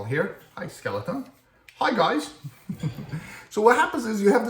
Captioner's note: laugh